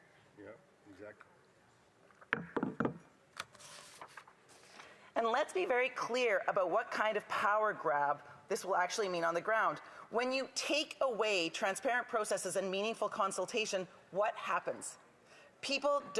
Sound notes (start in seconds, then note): none